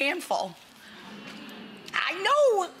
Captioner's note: audience chuckling